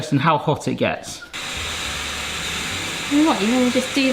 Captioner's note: steamer hisses; gentle music